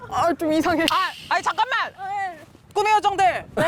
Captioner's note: forgot something sound